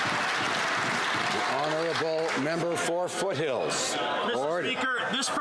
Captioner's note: some Applause